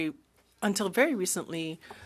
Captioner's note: speaking French